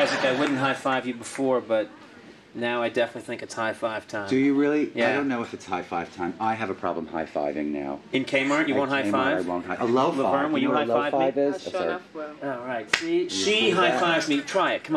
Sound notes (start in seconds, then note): 12.9 hands slap